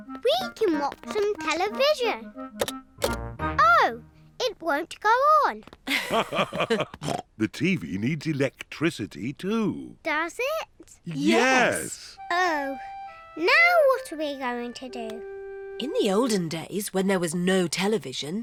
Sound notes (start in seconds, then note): 5.8 both laugh